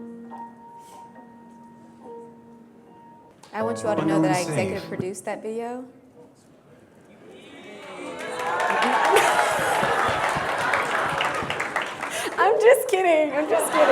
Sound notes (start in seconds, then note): 7.4 crowd applauds